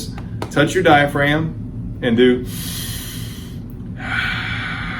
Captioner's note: exhales; inhales